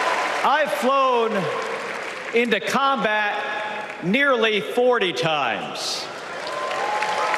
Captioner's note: applause